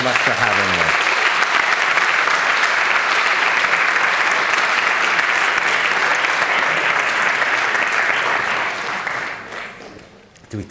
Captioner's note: applause